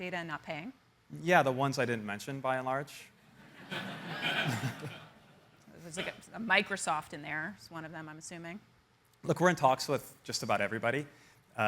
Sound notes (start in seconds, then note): 3.4 audience laughing